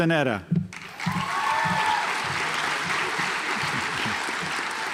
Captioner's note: audience applauds